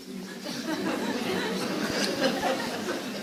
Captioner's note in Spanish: Risas